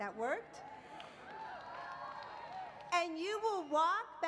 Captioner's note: applause